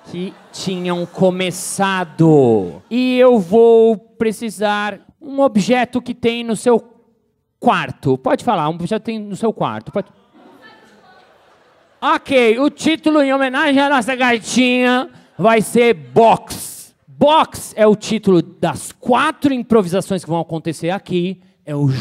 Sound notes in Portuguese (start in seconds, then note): 10.6 plateia dá sugestões